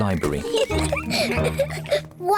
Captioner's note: laughter